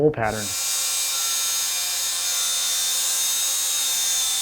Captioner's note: metal grinding